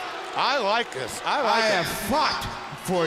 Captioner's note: crowd cheering